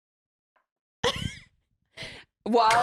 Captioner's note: laughs